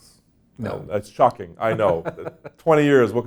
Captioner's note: laughs